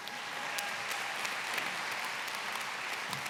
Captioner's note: applause